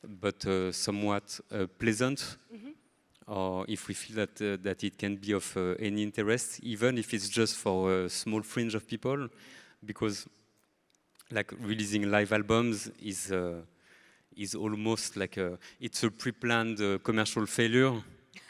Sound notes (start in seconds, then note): none